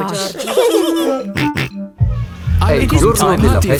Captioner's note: giggling and snorting